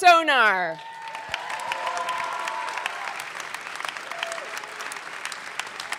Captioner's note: audience clapping and cheering